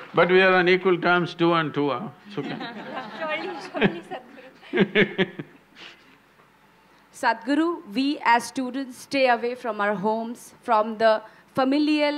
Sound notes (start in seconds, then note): 2.4 laughs; 4.6 both laugh